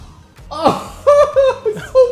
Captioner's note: laughter